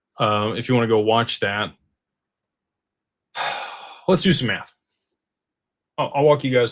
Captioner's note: sighs